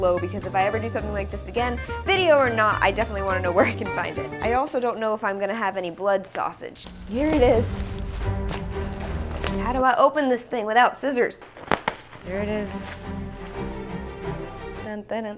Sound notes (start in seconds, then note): 7.0 quick pace, adventurous music; 11.3 bubble wrap popping; 12.3 quick pace, adventurous music